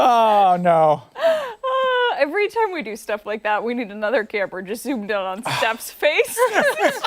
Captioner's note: laughter